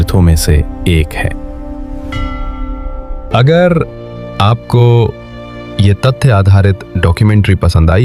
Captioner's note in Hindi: घंटी की आवाज़